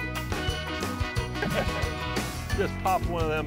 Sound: laughter

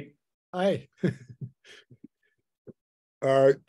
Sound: laughs

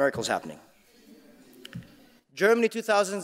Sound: audience laughing

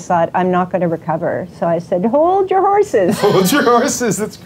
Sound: laughs

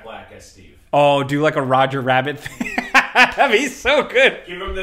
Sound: laughing

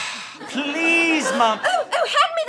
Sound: sighs

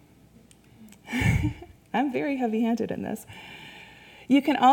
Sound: laughs

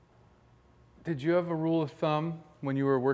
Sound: voiceover

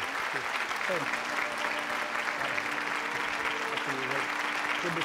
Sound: applause

